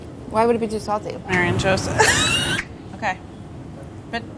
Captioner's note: laughter